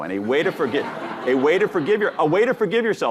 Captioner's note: audience laughing